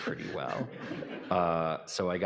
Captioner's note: audience laughing